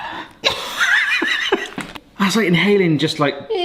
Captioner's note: both laughing